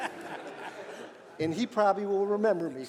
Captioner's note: laughter